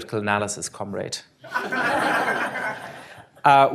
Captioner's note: laughter